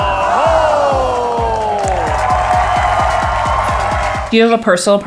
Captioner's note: crowd cheers